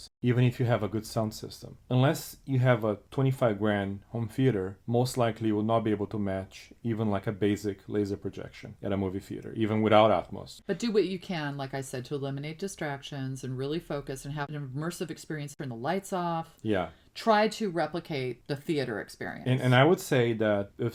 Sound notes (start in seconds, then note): none